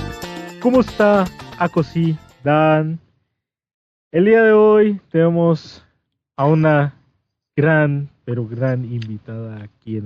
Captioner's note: Tagalog